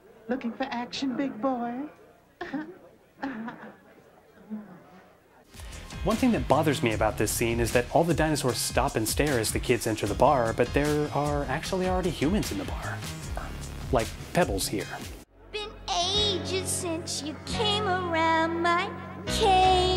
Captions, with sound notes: "Looking for action big boy?" *awkward giggling* One thing that bothers me about this scene is that all the dinosaurs stop and stare as the kids enter the bar, but there are actually already humans in the bar. Like Pebbles here. "Been ages since you came around my... cave"